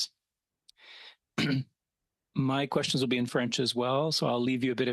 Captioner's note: speaking French